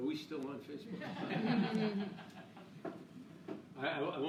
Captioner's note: laughing